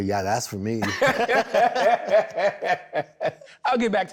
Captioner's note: both laughing